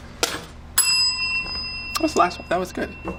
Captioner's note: bell dings